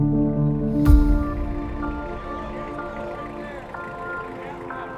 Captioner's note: engine humming